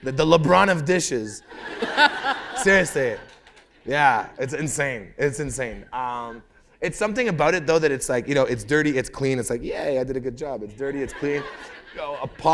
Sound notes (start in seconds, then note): 1.4 laughter